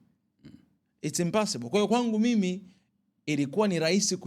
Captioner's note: clearing throat